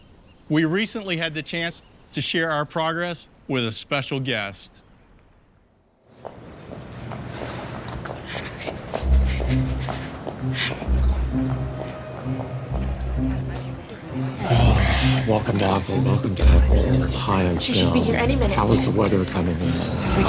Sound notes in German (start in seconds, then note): 7.8 murmelt; 14.2 ächzt